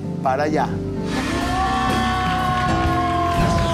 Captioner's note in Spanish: Ovación